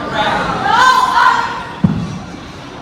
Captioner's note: screaming